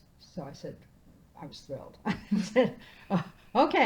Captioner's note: laughing